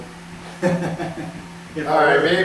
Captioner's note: laughs